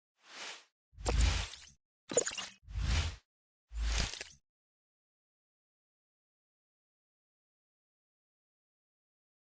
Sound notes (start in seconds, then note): 0.5 air whooshing; 0.5 technical sounds